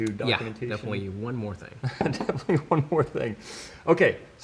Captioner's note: laughter